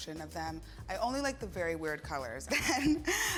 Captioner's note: laughs